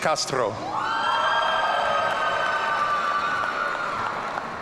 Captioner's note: audience cheering